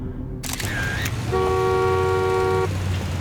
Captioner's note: shutter clicking; horn honking